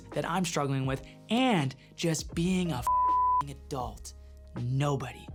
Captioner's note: beep